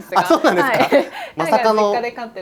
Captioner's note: laughs